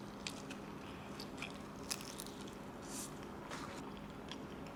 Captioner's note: crispy crunchy